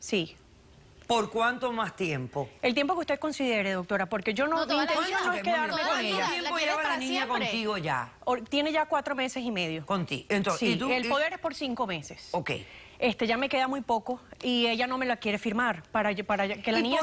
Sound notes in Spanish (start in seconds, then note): 4.4 Hablan al unísono